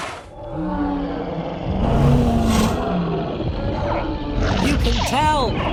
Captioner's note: dinosaurs roar and squeak